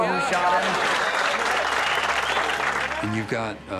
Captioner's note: applause